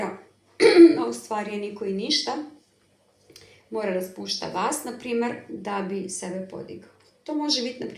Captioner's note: coughs